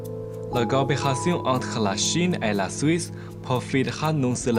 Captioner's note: French